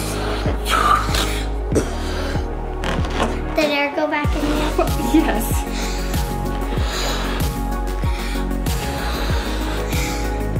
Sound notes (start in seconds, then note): 0.3 gasps; 6.9 blows air